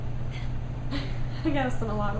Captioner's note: chuckling